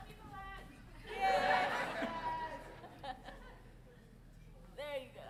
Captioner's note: audience laughs